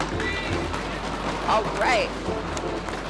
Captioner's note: hands banging on desks